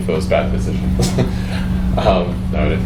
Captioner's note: laughs